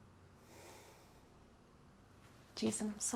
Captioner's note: sighing